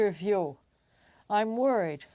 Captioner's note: speaking French